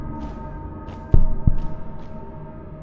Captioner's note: ba-bum